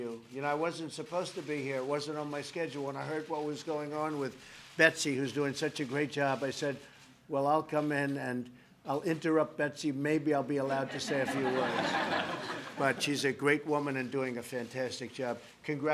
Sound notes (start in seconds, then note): 10.7 laughter